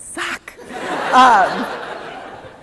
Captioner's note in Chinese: 笑聲